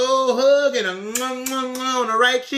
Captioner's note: kisses